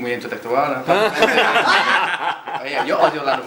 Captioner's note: laughs